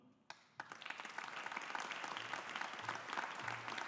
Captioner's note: audience applauding